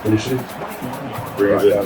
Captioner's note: crowd Noises